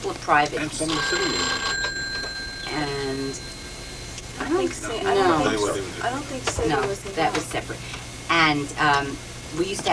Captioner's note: phone ringing